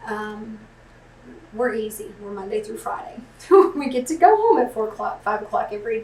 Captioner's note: laughs